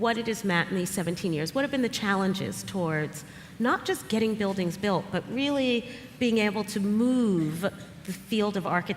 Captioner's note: none